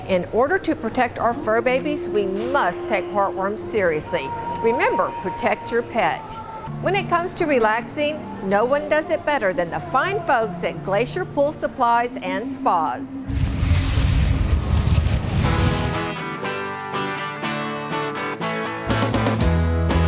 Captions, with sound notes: In order to protect our fur babies, we must take heartworms seriously. Remember, protect your pet. When it comes to relaxing, no one does it better than the fine folks at Glacier Pool Supplies and Spas. (whooshing) (vibrant music)